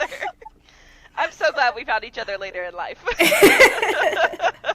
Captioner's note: laughter